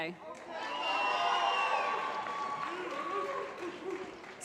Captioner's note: applause